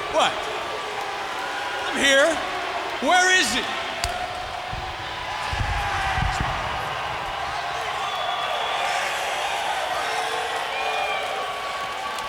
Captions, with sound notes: What? I'm here. Where is it? (crowd cheering)